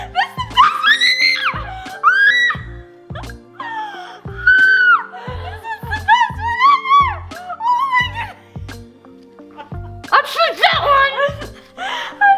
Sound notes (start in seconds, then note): 1.9 screams